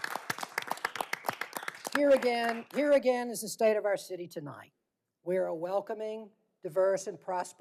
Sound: applause

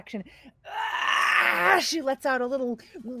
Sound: Fairuza screams

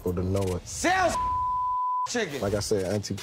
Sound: beep

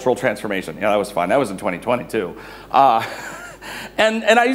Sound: chuckles

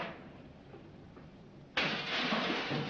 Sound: smash

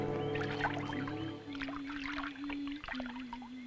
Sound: humming

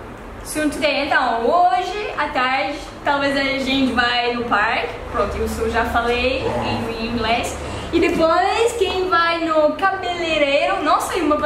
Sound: speaking Portuguese

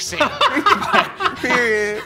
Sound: all laughing

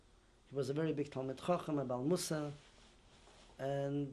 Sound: non-english

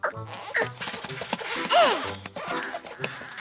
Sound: grunts

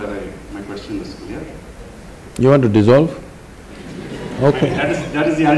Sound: laughter

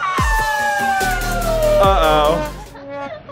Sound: cheering

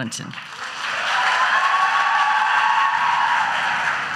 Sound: audience cheers

